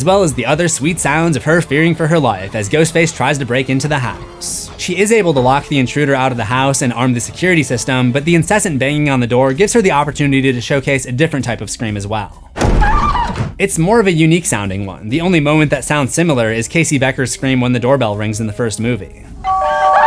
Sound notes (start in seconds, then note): 12.9 screams